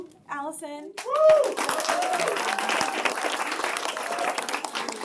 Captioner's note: applause